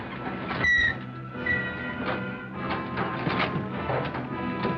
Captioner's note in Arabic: فرامل السيارة تصدر صوت صرير